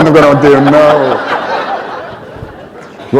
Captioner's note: laughter